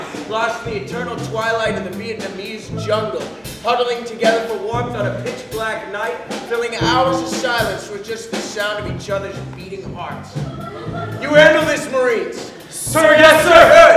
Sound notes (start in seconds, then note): 10.3 laughter